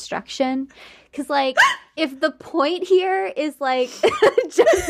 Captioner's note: gasping